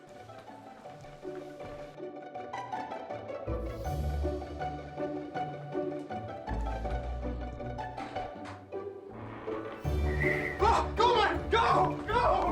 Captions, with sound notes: [wind whistling] Oh, go man, go, go,